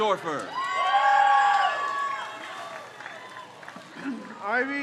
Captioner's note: crowd cheers